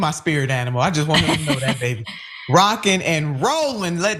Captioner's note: laugh